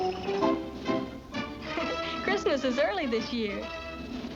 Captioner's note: chuckles